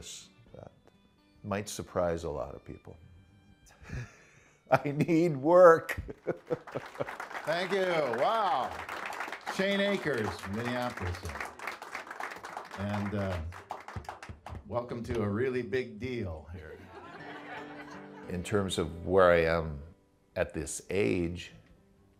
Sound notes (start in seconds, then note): 3.2 laughs; 16.6 laughter